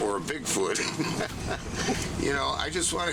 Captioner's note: laughs